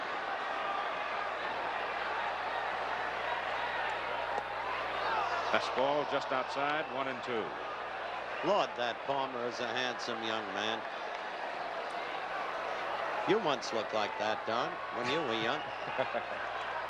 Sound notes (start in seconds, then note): 6.4 laughter